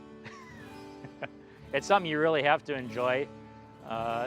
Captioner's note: laughs